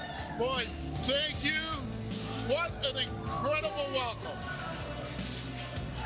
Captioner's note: cheers and Applause